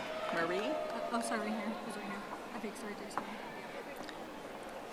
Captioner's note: audience applauding